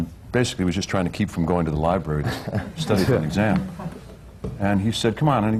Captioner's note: laughter